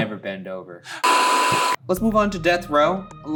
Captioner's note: static crackling